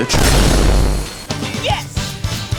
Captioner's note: booom